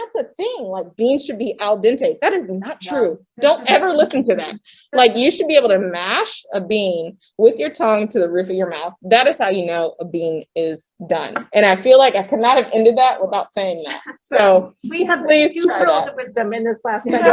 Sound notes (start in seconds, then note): 13.8 laughs